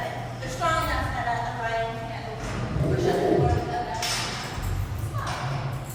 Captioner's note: lion growl